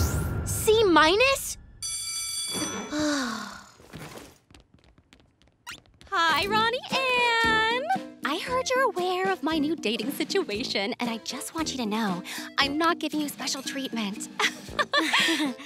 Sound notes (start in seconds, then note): 1.8 bell ringing; 2.8 sighing; 14.4 laughing